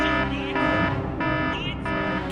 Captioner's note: home security alarm starts beeping